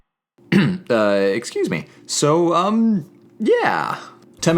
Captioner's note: clears throat